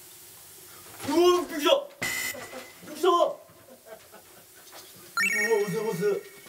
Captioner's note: laugh